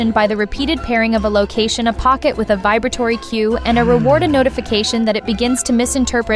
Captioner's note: a notification